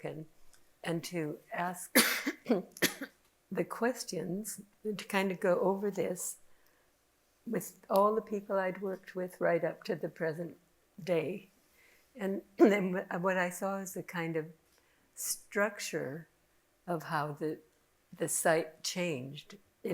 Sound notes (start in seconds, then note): 1.9 person coughing